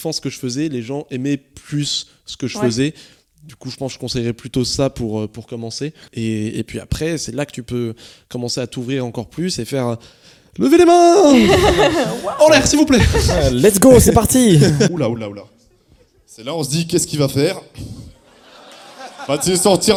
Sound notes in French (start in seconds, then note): 17.9 rires